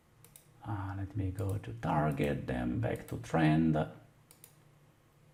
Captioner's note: clicking